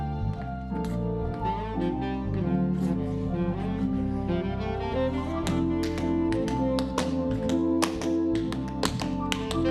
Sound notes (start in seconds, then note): 6.0 tapping